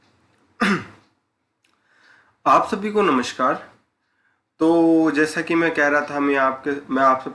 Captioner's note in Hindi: गला साफ़ करने की आवाज़